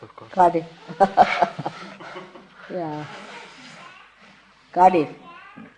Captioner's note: mother chuckles